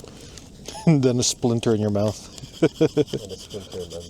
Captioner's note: laughs; chuckles